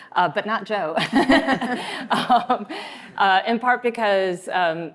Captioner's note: laughs